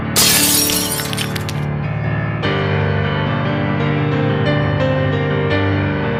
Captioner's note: shatters the glass